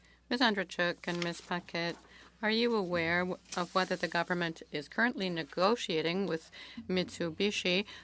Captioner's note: speaking French